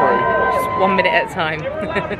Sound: crowd whooping

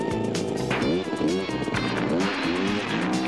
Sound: engine backfires

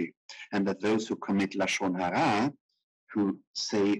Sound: speaking in foreign language

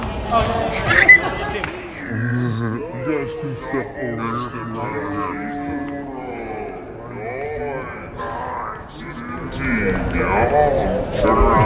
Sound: super slow speech

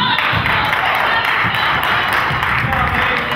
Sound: crowd claps

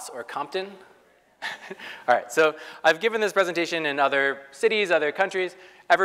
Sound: laugh

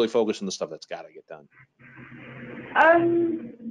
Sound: none

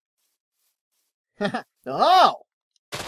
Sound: laughs

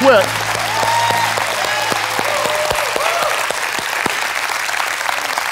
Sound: audience claps and cheers

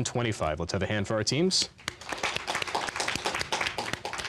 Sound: applause

